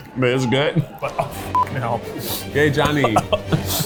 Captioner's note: coughs